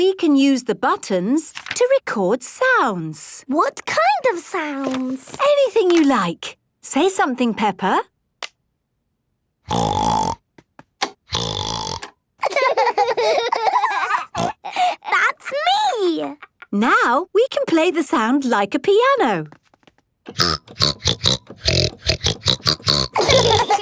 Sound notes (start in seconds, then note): 9.7 snorting; 12.4 laughter; 14.2 snorting; 20.3 snorting version of theme song